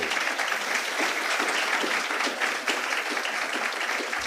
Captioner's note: audience clapping